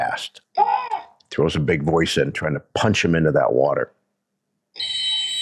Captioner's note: handler shouts; whistle blows